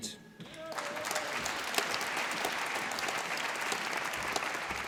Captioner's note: applause